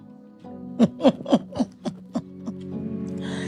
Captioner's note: laughing